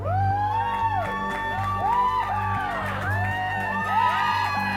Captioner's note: all cheering and applauding